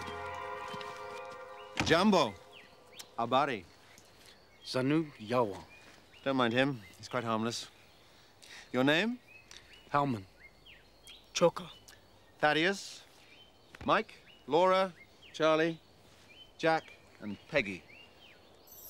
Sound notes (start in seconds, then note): 1.9 speaks foreign language